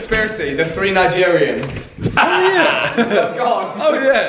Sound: laughing

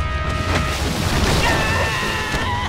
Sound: screaming

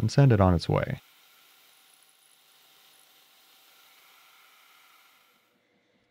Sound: milling machine whirring

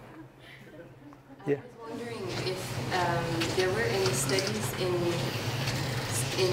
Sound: laugh

